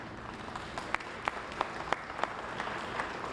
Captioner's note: applause